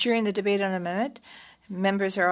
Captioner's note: speaking French